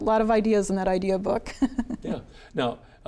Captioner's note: chuckles